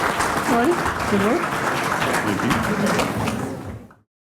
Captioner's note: applause